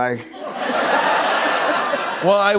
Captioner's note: laughter